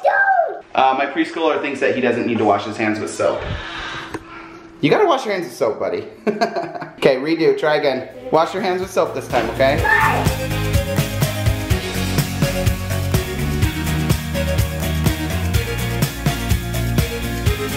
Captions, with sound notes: - I don't! - My preschooler thinks that he doesn't need to wash his hands with soap. You gotta wash your hands with soap buddy. (laughing) Okay, redo, try again. Wash your hands with soap this time, okay? (upbeat music)